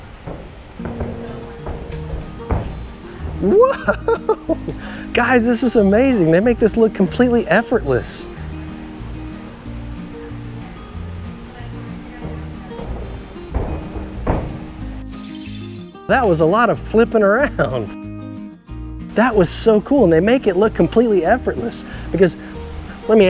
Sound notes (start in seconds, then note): 0.0 footsteps thudding; 3.4 chuckles; 8.6 bright music; 12.2 footsteps thudding; 15.0 graphics tinkling